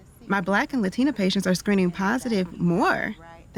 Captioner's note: none